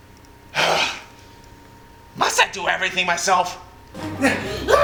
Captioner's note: sigh